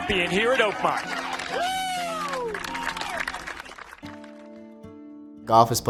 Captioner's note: crowd cheering and applauding